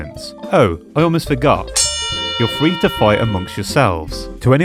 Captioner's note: ring bell